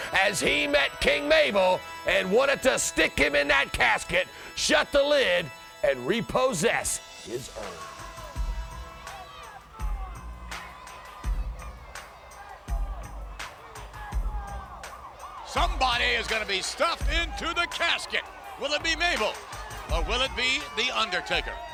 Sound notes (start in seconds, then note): 7.7 light music; 15.1 siren blaring